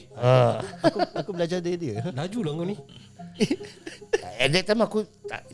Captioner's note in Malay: ketawa